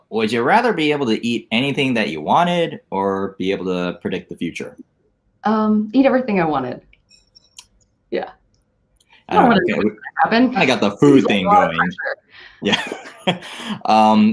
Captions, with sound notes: - Would you rather be able to eat anything that you wanted or be able to predict the future. - Eat everything I wanted, yeah. I don't wanna know what's gonna happen-- - I got the food thing going. (laughs)